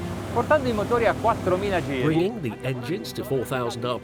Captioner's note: intense music; speaking foreign language